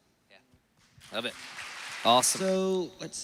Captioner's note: applause